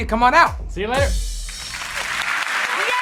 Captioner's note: applause